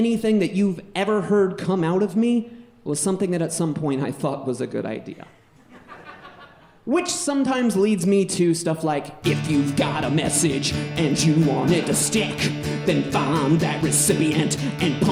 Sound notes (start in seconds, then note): 5.5 audience laughing